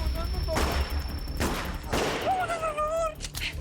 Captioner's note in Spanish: Disparos